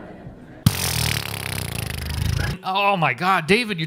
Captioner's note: incredulous noises